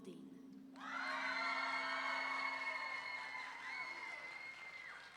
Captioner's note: audience members screaming